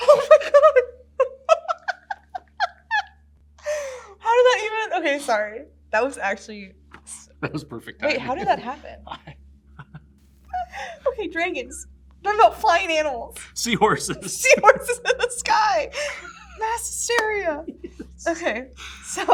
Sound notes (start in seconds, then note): 1.2 laughs; 17.6 giggles